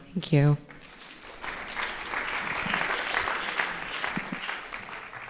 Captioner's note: audience applauding